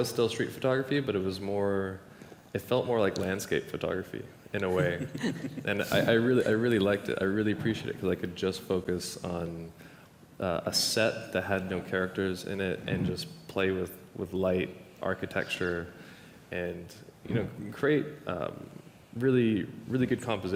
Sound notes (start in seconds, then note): 4.6 artists laughing